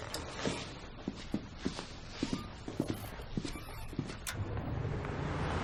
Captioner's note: footsteps